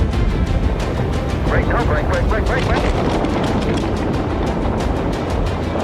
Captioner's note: speaking faintly